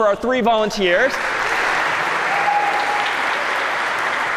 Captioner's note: applause